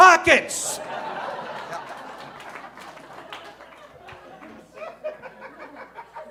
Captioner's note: audience laughing